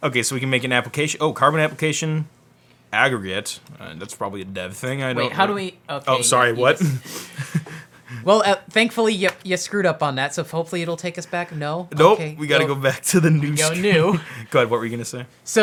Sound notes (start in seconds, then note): 6.6 laughs